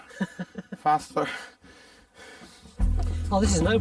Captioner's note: both laughing